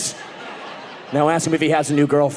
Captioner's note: audience laughing